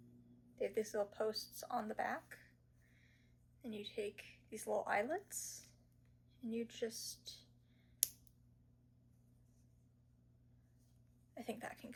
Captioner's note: click